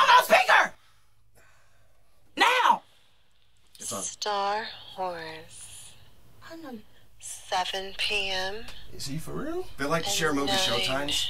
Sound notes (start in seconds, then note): 3.7 female movie voice